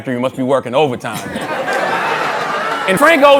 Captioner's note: laughter